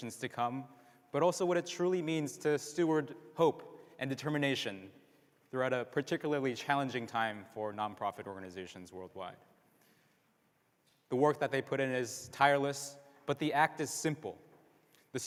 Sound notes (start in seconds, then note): none